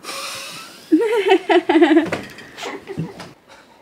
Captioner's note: laughs